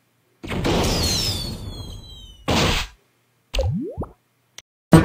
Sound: fireworks explosion

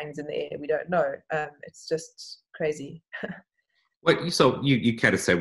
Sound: giggling

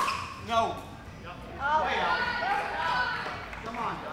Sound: shouting

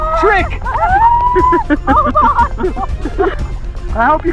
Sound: laughing

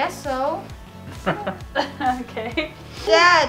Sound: laughs

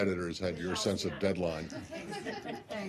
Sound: laughter

